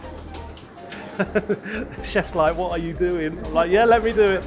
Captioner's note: laughs